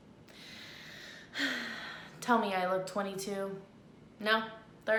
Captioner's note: sighs